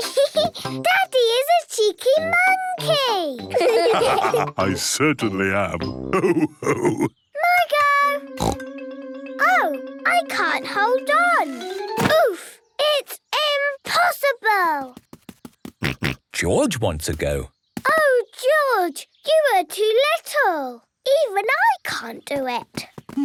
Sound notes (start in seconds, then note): 0.3 laughs; 3.5 all laugh; 8.4 snorts; 15.8 snorts